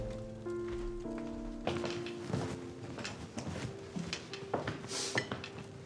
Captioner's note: footsteps